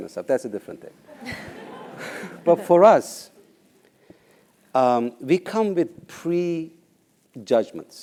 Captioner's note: laugh